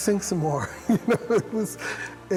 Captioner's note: chuckling